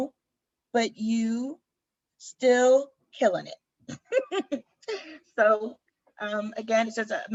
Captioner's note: laughter